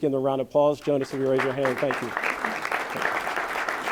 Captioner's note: applause